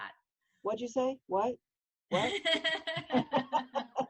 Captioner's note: both laughing